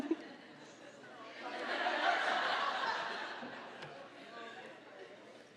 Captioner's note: audience laughing